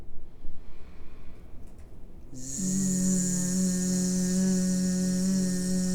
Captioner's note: buzzing; inhaling